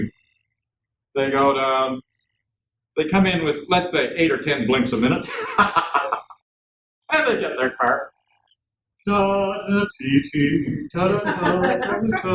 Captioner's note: hums